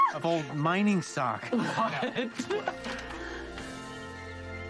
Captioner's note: chuckles